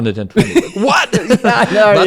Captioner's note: laughs